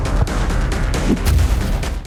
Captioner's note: splat